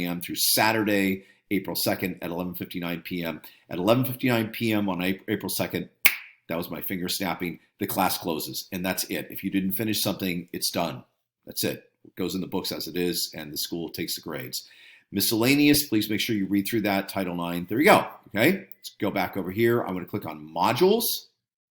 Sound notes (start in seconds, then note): 6.0 fingers snapping